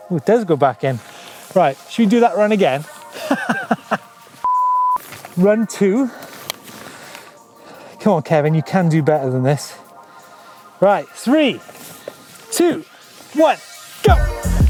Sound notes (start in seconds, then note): 3.1 laughing